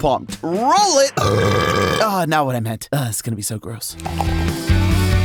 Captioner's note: burps